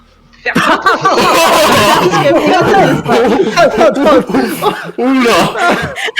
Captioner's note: general laugh